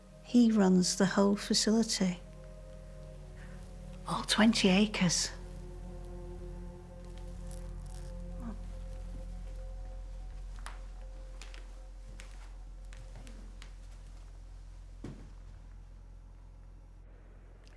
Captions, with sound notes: He runs the whole facility, all 20 acres. Come on. (footsteps plodding)